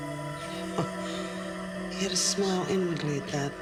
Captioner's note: Nora scoffs